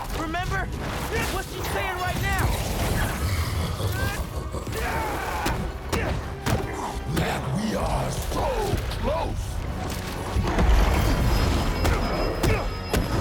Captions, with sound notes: Remember? What’s she sayin’ right now? (laughs) That we are SO CLOSE!